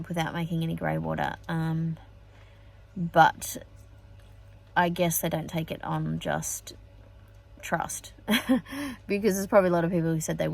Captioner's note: scoffs